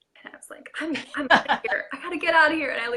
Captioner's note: laughing drowns out speaker